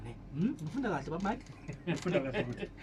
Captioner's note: chuckles